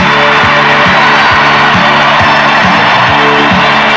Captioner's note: crowd cheering